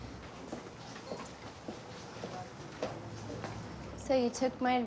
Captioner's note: heels clacking